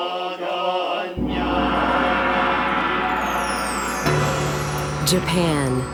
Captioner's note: chanting; gong